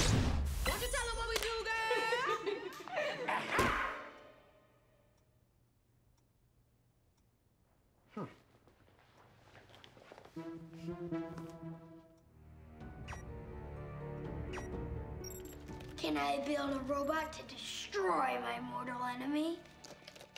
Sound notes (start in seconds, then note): 12.1 beeping